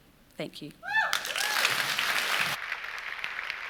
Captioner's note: applause